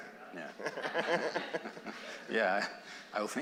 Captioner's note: laughter